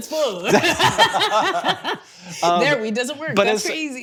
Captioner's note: both laughing